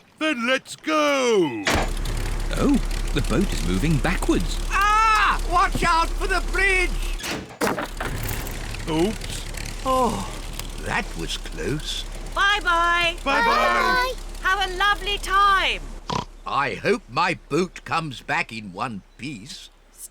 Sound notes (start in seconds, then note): 1.6 lever clunks; 7.4 crunching; 16.0 oinks